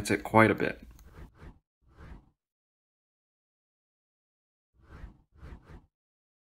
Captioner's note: transition Swooshes